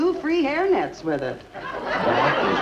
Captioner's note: audience laughs